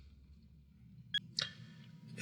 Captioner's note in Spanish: Suena el celular